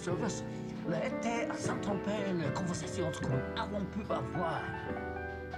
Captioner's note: speaks foreign language